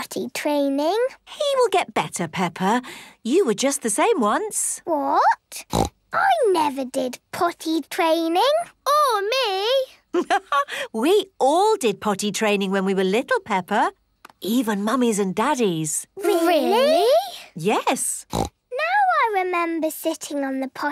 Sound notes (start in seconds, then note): 5.6 snorts; 10.2 laughs; 18.3 snorts